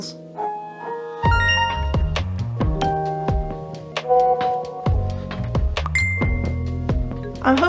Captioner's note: notification sounds